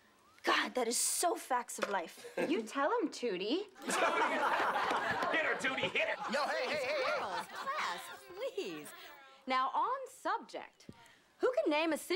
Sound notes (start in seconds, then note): 3.8 students laughing